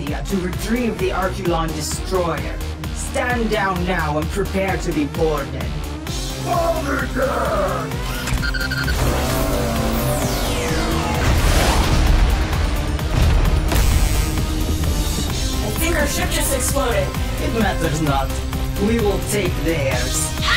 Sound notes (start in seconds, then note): 8.1 electronics bleeping; 9.0 laser zapping; 11.0 explosion booming; 13.8 sparks crackle